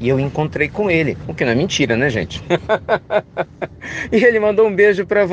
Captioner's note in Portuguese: risadas